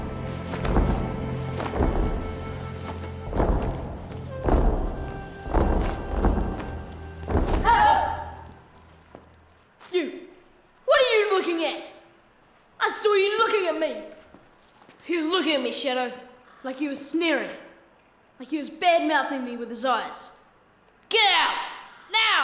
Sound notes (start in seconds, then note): 0.1 somber pan flute music; 7.4 warriors grunting; 21.4 yells